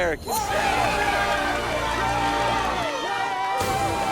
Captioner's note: team cheers